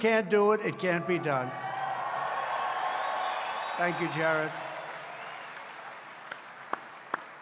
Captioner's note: applause